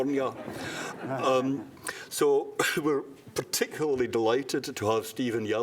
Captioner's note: laughter